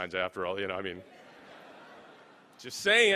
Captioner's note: laughing